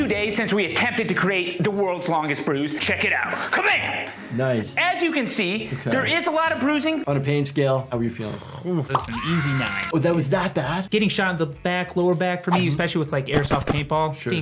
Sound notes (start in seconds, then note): 8.6 lips trilling